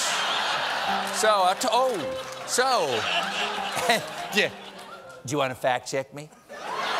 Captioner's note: laughter